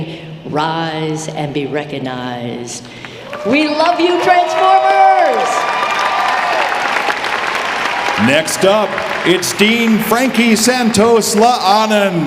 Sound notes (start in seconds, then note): 5.8 audience applauding